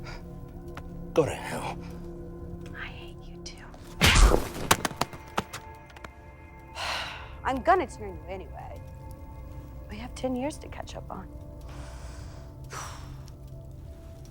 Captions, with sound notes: - Go to hell. - I hate you too. (tense music continues) I'm gonna turn you anyway. We have 10 years to catch up on. (sighs)